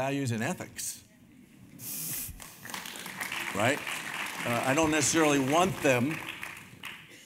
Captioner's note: applause